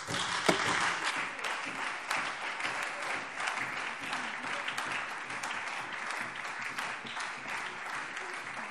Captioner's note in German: Anhaltender Beifall Freie Demokraten und SPD